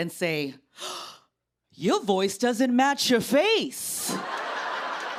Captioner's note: gasps